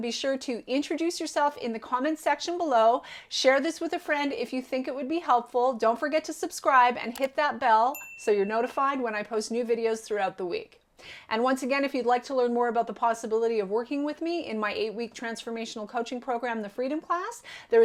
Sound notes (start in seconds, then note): 7.9 bell dinging